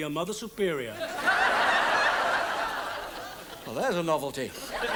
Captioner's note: audience laughs